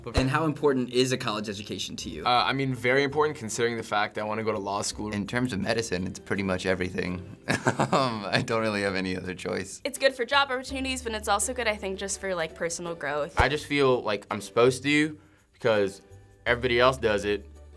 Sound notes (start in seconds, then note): 7.4 laughter